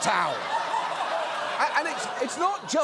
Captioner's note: audience laughs